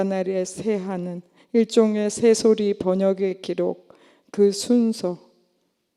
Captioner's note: none